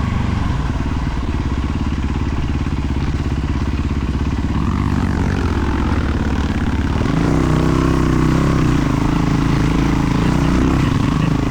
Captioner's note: engine revving